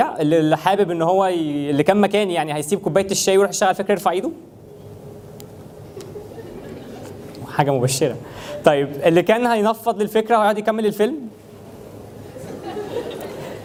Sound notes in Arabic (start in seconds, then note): 4.3 ضحك الجمهور; 12.2 ضحك الجمهور